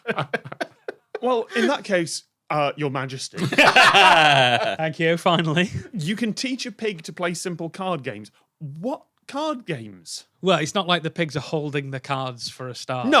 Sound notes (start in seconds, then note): 3.4 others blurt laugh